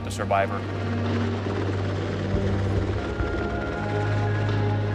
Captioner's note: helicopter blades whirring